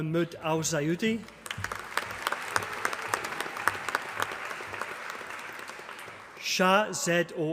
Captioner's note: applause